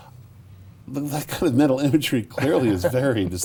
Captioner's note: laughs